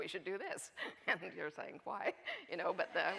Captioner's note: audience laughing